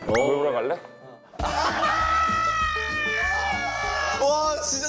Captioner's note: group screaming